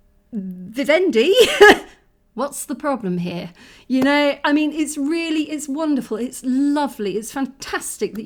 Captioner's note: laughing